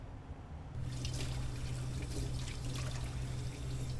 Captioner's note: water running